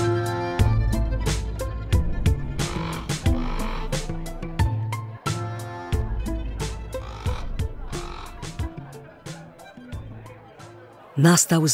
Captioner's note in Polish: krakanie kruków, w tle odgłosy biesiady